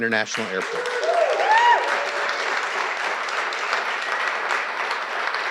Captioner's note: audience applauding